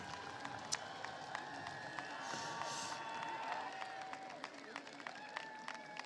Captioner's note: applause